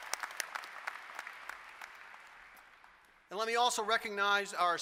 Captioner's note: applause